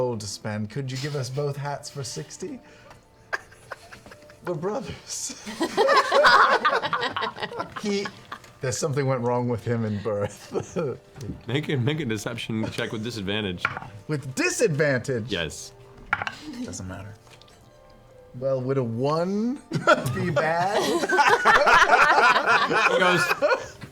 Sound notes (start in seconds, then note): 5.4 laughter; 19.7 laughter